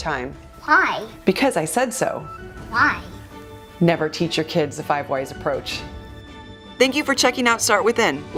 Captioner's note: child speaking